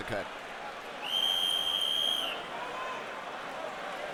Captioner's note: whistle blows